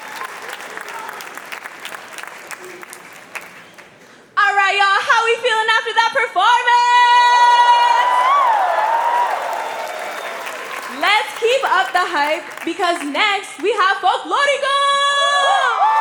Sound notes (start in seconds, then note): 7.1 cheering; 9.3 applause; 9.3 cheering; 9.3 whistle; 15.0 cheering